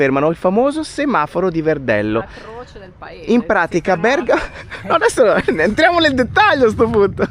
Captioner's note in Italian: risate